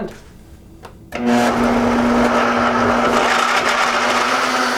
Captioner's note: whirring